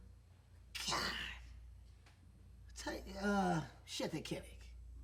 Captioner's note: German Gibberish